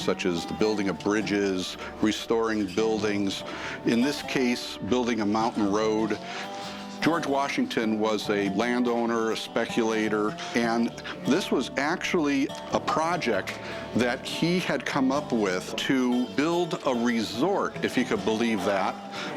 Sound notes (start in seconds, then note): none